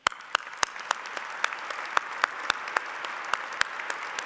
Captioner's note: applause